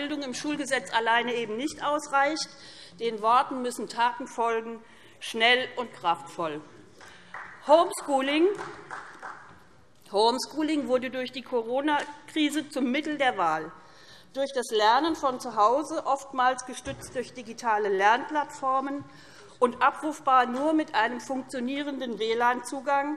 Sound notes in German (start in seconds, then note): 6.6 Beifall SPD